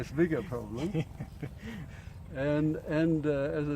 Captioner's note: laughing